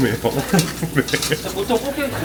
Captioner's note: chuckles